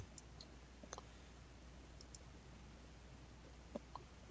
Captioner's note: mouse clicking